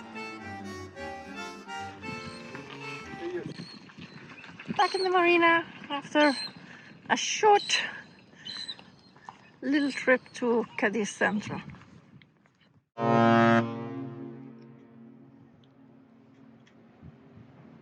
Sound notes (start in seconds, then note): 13.0 laud boat horn